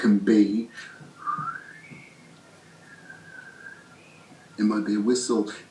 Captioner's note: whistling like a gale blowing through an ajar window